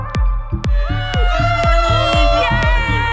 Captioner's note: upbeat music; crew cheering